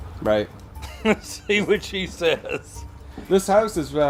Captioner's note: laughs